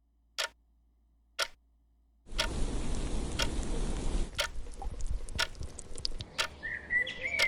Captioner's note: clock ticking